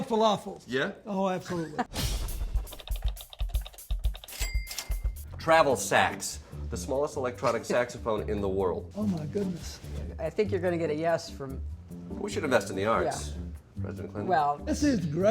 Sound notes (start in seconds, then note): 4.2 clicking and dinging